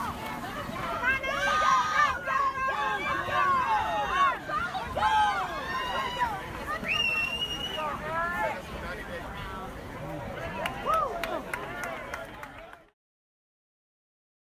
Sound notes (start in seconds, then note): 6.9 observer whistles; 10.5 crowd applauding